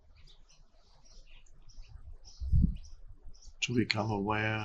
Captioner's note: birds chirping